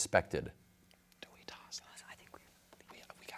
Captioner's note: whispers